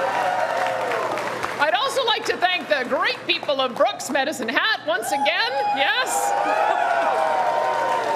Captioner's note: cheering